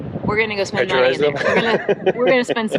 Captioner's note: laughs